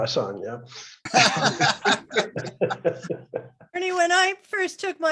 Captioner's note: laughter